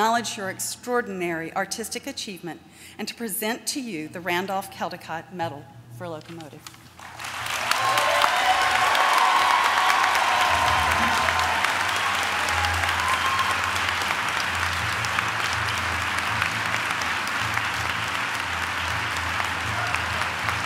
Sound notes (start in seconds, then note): 12.1 applause